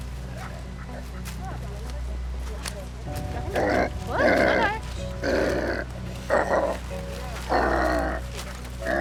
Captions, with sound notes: (KOALA GROWLS) Whoa! No, no. Shh.